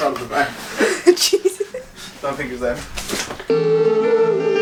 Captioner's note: laughing